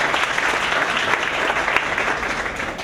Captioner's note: applause